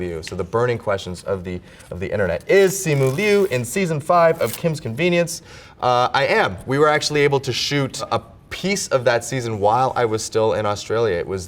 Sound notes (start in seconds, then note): 2.3 paper rips